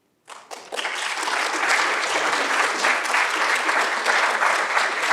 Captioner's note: audience applauding